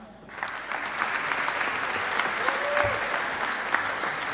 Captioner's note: audience applauding